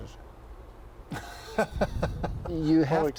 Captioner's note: laughs